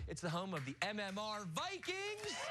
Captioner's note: cheers and applause